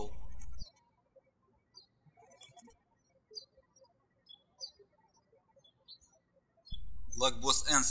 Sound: birds chirping

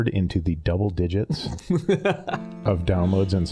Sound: laughing

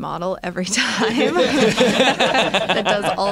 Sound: laughter

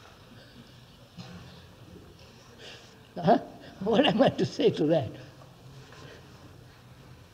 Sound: laughs

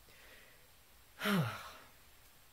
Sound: sigh

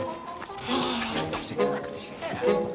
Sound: gasps

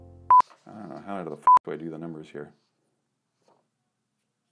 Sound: beep

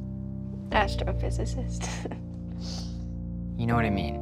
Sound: chuckles

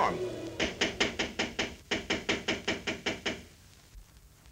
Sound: knocking on door

